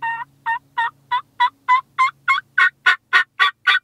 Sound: turkey call

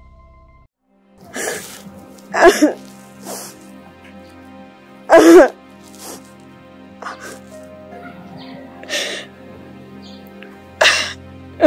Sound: crying

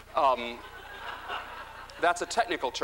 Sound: laughter

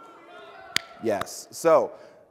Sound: presenter claps

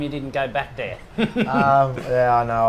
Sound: chuckles

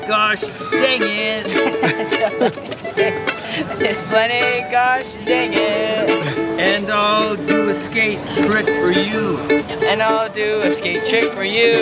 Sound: laughing

